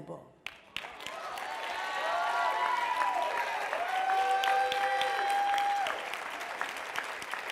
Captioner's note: applause